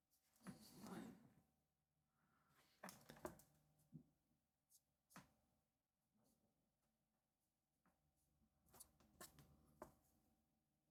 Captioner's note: silence